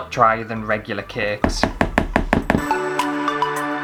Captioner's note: spoon Taps